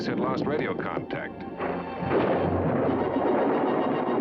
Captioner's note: thunder rumbling